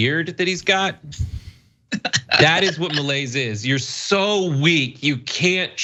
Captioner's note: laugh